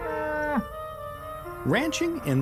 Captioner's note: cows mooing